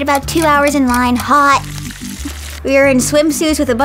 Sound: water gushing

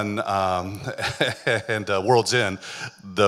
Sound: chuckling

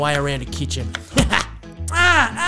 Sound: chop sound effect

